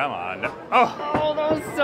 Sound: clunk

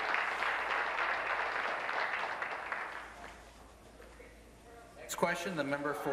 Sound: applause

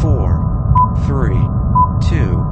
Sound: crickets; teleport beam sounds

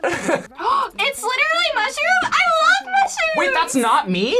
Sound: laughs; gasps

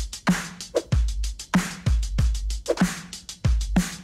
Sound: air whooshing

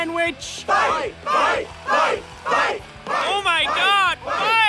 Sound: crowd

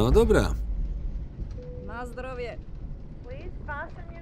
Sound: speaking Russian

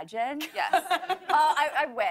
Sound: laughter

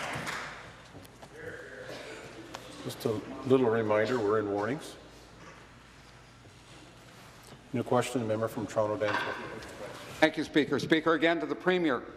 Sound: applause

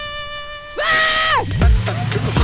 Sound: screaming in horror

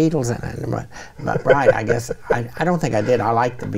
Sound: chuckling

